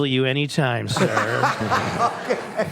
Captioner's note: laughter